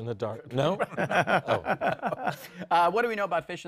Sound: laughter

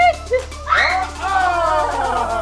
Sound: screams

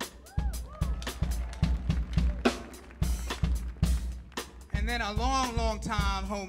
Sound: audience clapping and cheering

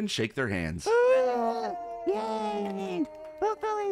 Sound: all cheer

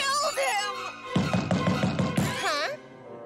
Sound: knocking

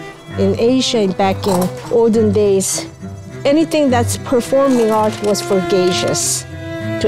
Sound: none

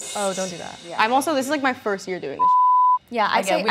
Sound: cymbal clanging; beep

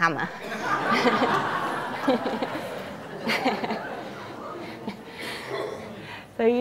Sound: audience laughter

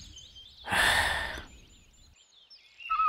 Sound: sighs

